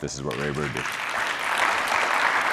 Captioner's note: applause